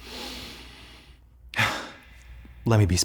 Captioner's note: inhales, sighs nervously